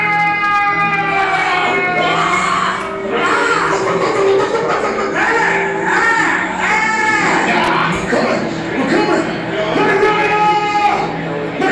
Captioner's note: yelling